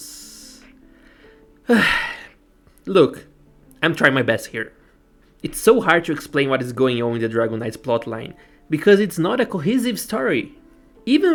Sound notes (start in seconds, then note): 1.6 sighs